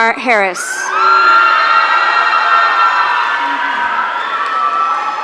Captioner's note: audience cheering